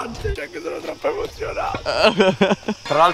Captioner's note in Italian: crying